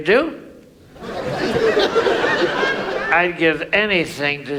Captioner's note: audience laughs